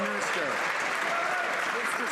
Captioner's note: some Applause